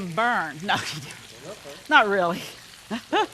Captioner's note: chuckling